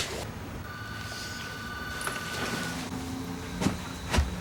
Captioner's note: phone rings